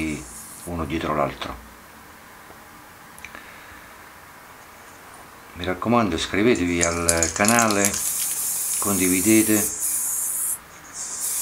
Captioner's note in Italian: Applauso